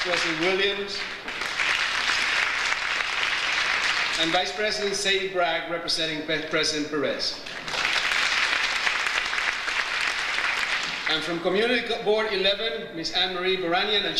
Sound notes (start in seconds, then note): 0.0 audience applauds; 7.4 audience applauds